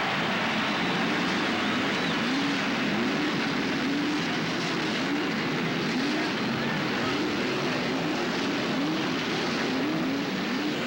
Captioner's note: crowd cheering; engines revving